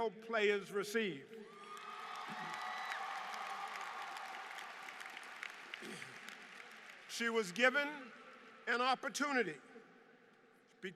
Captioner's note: applause